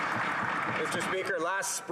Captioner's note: applause